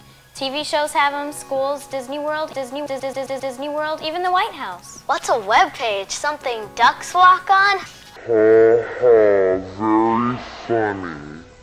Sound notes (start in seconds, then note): 8.2 laughs at his own terrible "joke"; 8.4 slowed, and mockingly